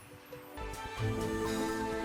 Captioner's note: sounds of a little glade